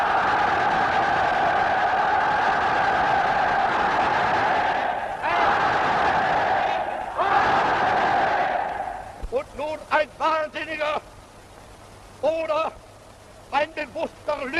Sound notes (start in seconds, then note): 0.1 crowd cheers; 9.5 speaks foreign language